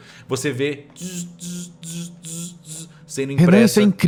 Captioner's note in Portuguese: tzzr-tzzr-tzzr